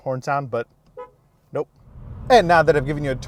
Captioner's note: horn honks